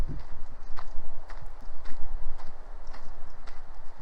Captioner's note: footsteps